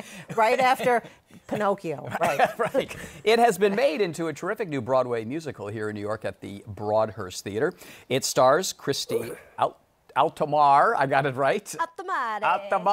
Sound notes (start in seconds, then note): 2.2 laughs; 11.1 Italian accent